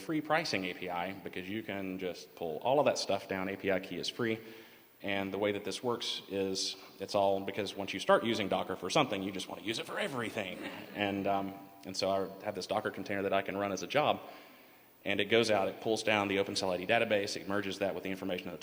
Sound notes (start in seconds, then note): 10.6 laughter